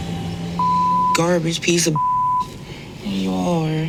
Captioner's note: beep